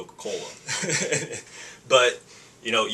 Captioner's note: laughing